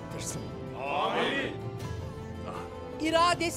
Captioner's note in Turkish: Hep bir ağızdan